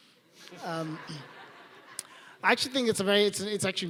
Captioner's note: laughing